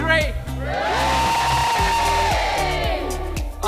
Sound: cheering

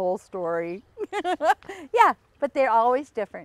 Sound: laughs

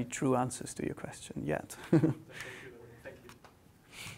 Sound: laughs

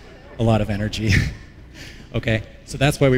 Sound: laughter

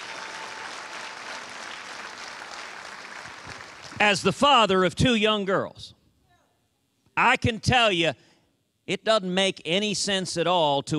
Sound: cheers and applause

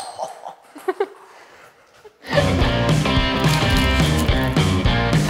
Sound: laughs loudly

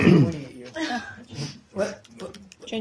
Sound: laughter

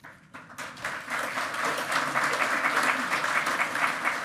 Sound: loud clapping

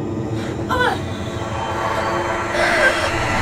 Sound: grunting

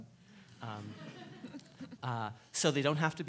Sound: laughing

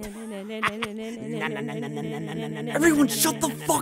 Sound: everyone starts humming

